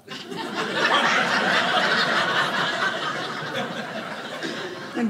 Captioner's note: audience laughing